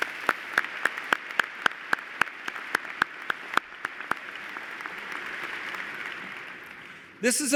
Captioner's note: applause